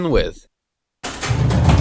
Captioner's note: door open